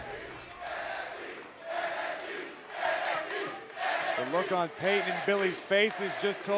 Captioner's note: fans chanting